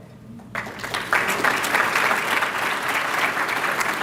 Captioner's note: applause